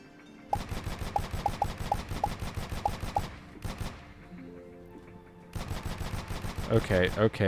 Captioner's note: gunshots